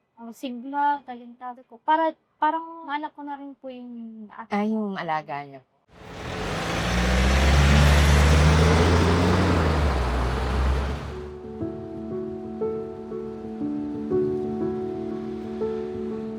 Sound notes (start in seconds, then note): 5.9 bus rumbling